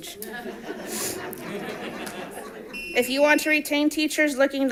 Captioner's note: audience laughing